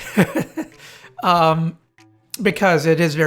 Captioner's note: laughs